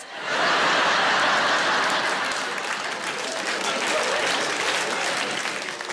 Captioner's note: audience laughing and applauding